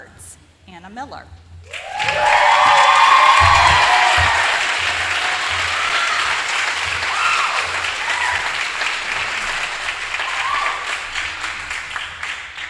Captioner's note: applause